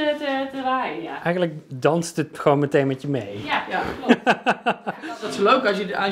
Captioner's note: laughs